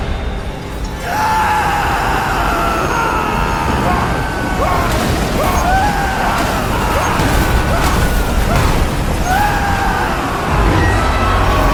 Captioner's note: screaming